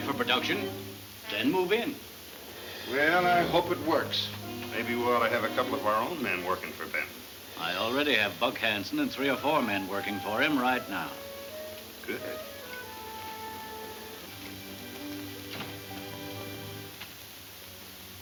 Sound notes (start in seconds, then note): 14.9 door opens